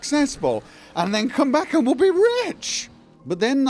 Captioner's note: slurred